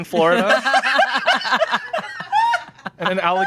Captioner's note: laughing